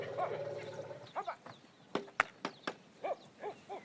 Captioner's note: man shouting